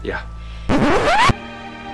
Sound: record scratch

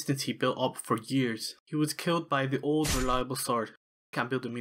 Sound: stabbing sound

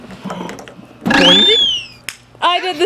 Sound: whistle blows

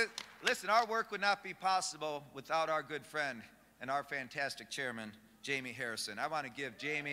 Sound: applause

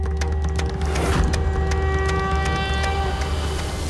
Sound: conch blows

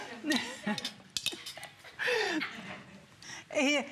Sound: laughter; laughter

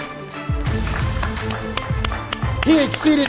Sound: hands clapping

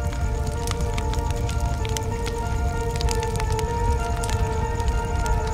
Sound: fire crackles

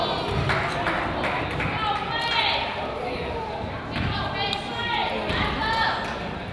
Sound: coach yells; crowd applauds

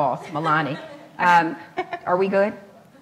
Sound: laughs

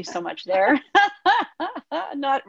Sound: laughing

